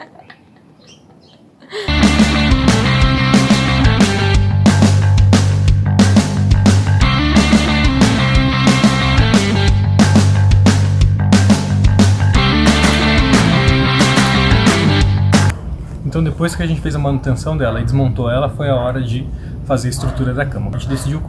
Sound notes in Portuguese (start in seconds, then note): 11.5 Aplausos